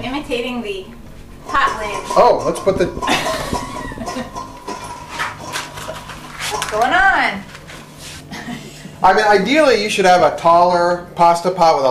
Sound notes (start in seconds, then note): 3.0 female chuckling; 3.1 clanking